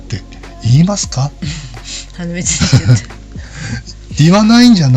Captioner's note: laughs